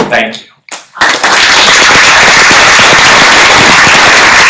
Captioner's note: applause